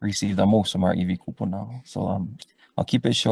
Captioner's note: speaks foreign language